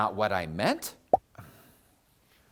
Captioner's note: pop!